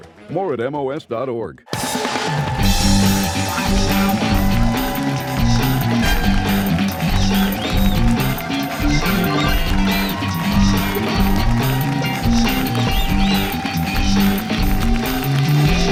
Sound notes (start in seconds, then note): 2.0 cheers and applause